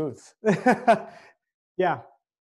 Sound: laughing

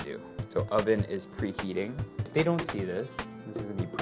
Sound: none

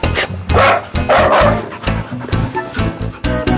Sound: puppy barking

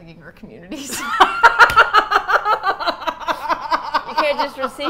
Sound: both laugh

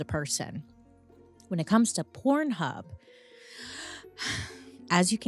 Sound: breathes deeply

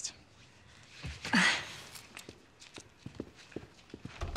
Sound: sighs

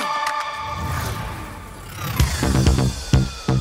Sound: loud whooshing

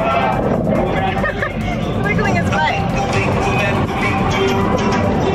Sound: laughs; lively music

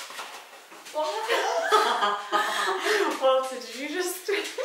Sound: dog shuffling; laughing

